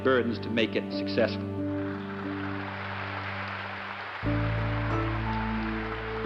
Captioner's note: applause